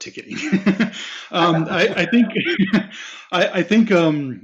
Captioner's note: laughing